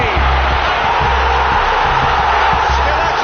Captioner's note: crowd roaring